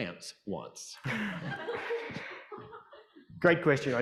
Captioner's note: audience laughing